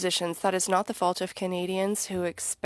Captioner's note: speaking French